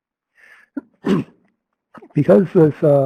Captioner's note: sneezes